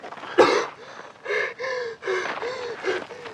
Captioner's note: wheezing